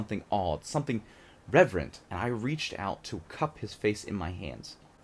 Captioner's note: none